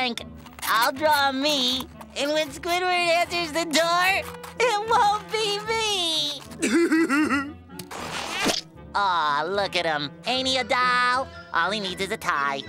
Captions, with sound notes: I'll draw me and when Squidward answers the door, it won't me. [Patrick laughing] Awe, look at him. Ain't he a doll? All he needs is a tie.